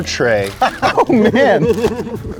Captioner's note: laughing